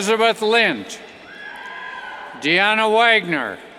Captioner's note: cheers